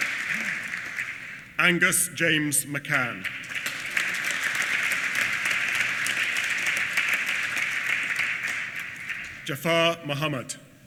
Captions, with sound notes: Angus James McCann. (APPLAUSE) Jafar Mohamad.